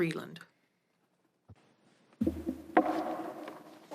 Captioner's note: speaking French